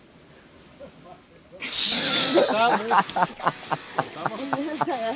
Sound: laughs

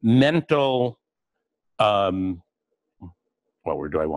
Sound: pause

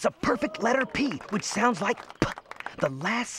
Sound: makes "p" sound

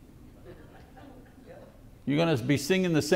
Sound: congregation laughs

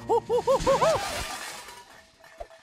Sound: crashing

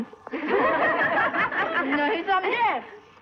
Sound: laughing

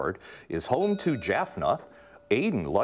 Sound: bell ringing

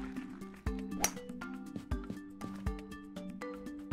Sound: clapping; golf club hitting golf ball

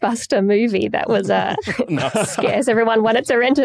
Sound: laugh

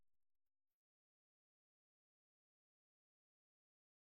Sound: silence

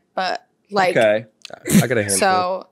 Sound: laughs

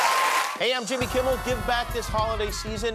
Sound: cheers and applause

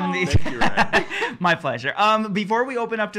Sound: laughing

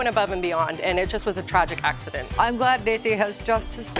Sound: voice breaking

